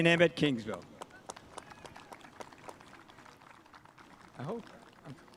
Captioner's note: spectators applauding